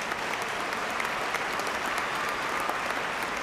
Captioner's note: applause